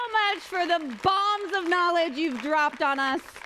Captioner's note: applause